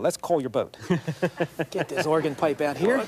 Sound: laughing

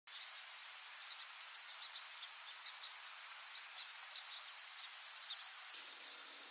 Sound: forest noises

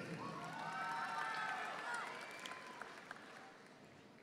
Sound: audience applauding

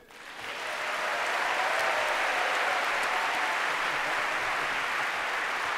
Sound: applause

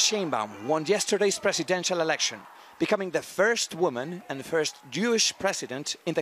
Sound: cheers

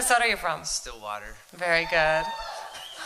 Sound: cheering

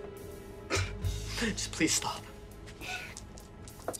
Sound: chuckles; laughs

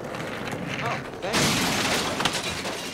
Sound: <i> crash</i>

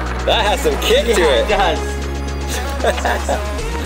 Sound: laughs; techno music

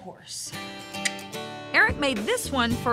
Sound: clicks teeth

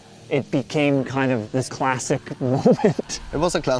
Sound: laughs

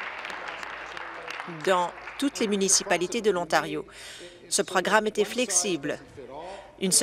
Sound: applause

